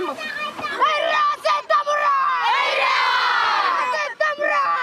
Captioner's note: Fijian spoken audio